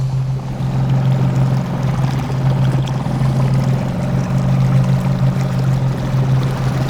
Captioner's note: intense ambience; boat humming